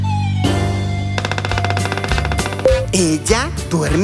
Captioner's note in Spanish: Sonido de pájaro carpintero